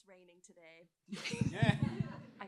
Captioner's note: laughter